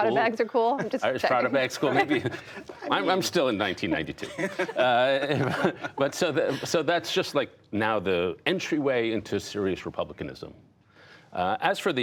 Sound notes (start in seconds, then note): 2.4 laughter